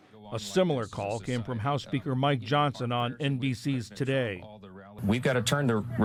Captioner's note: voice-over